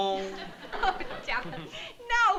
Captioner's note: laughs